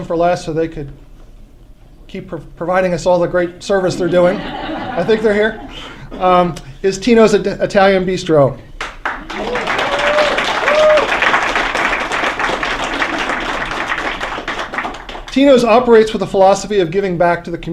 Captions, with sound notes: last so they could keep providing us all the great service they're doing. (LAUGHTER) >>I think they're here - is Tino's Italian Bistro. (APPLAUSE) >>Tino's operates with the philosophy of giving back to the